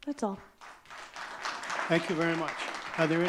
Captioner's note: audience clapping